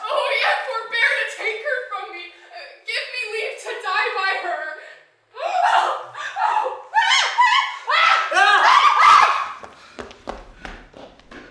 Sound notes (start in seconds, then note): 5.4 screaming